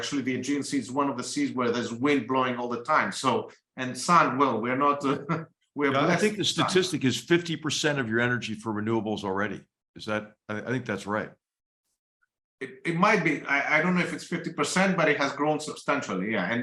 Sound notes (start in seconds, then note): 4.9 laugh